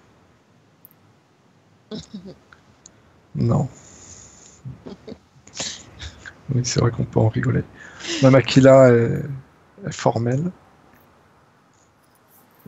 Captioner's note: laughs